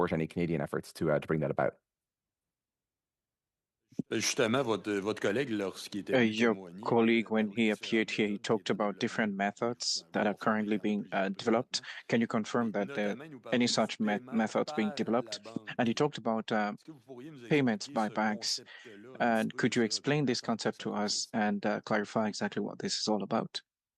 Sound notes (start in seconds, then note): 10.4 speaking French